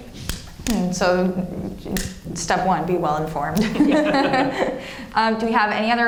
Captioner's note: laughs